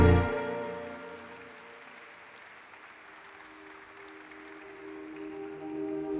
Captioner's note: quiet Applause